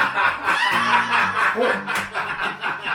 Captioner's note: laughter